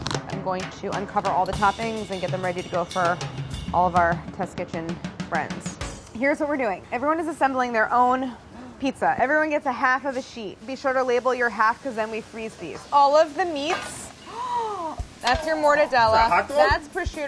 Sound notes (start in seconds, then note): 14.2 gasping